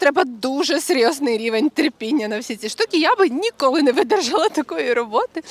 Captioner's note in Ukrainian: сміх